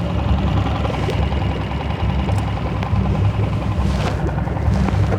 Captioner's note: boat engine roaring